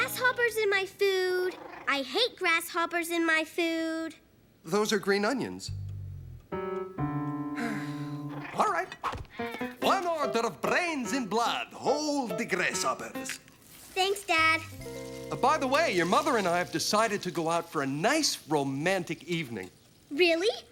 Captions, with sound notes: THERE ARE GRASSHOPPERS IN MY FOOD. I HATE GRASSHOPPERS IN MY FOOD. THOSE ARE GREEN ONIONS. (SIGHS) ALL RIGHT. ONE ORDER OF BRAINS AND BLOOD, HOLD THE GRASSHOPPERS. THANKS, DAD. BY THE WAY, YOUR MOTHER AND I HAVE DECIDED TO GO OUT FOR A NICE ROMANTIC EVENING.